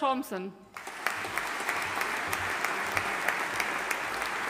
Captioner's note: audience applauding